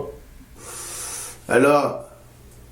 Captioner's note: in hale